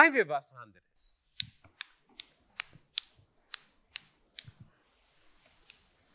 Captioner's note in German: Klicken